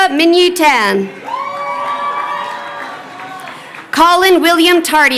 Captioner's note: crowd cheering